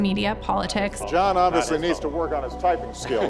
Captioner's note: laughing